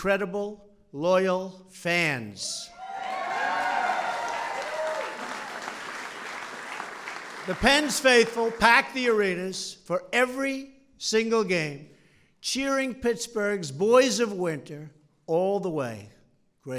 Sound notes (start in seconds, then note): 2.8 applause